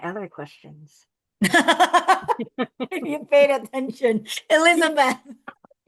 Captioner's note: laughs